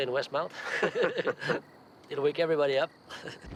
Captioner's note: both laugh; laughs